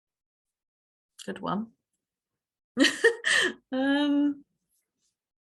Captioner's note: giggles